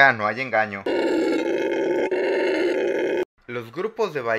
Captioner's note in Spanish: Rugido sabio de mono aullador